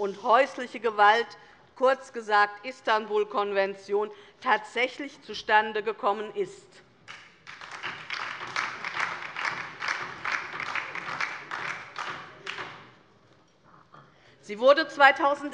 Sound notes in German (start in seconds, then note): 7.0 Beifall DIE LINKE und vereinzelt SPD